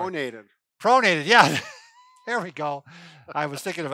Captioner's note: laughing